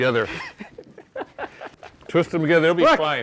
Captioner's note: laughing